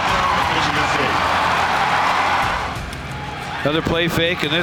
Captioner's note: crowd cheering